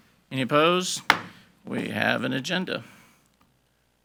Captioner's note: gavel bangs